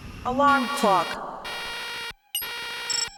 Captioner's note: loud robot voice; loud beeping